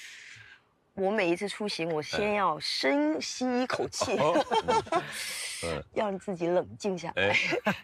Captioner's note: laughs